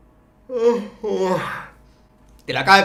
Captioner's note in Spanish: Sigue bostezando